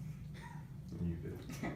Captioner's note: laughs